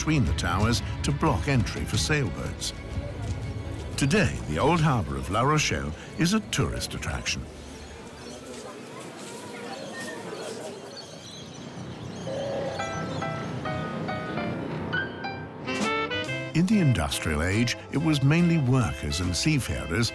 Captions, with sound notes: between the towers to block entry for sailboats. Today the Old Harbor of La Rochelle is a tourist attraction. -[screeching seagulls] -[people talking] [cheerful piano music] In the industrial age it was mainly workers and seafarers